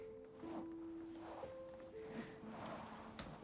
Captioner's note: material rustling